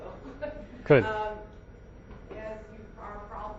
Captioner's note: laughs